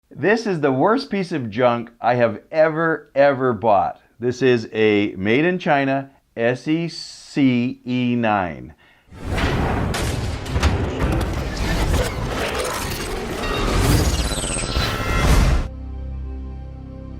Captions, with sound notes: - This is the worst piece of junk I have ever, ever bought. This a made in China SEC E9. (gears grinding)